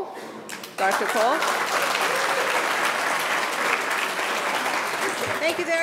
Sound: audience applauding

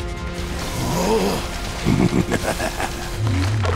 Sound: laughing

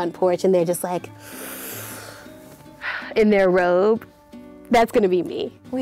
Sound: inhaling

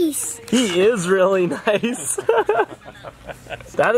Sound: laughing

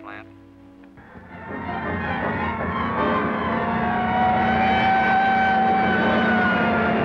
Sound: dramatic music; sirens wailing

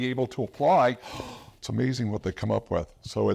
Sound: gasps

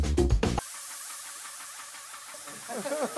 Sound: spraying; laughing

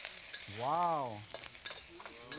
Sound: sizzling

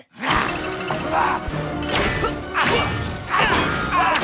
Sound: grunts of combat

